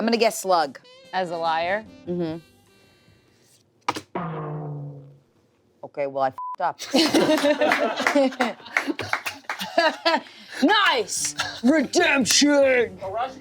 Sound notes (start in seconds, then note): 6.4 beep; 6.9 everyone laughs